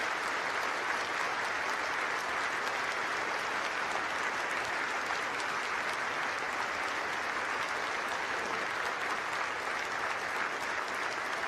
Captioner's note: cheers and applause